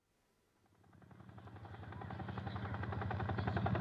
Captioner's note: helicopter rotors droning